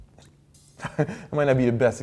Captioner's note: chuckling